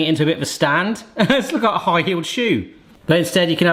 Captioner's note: chuckles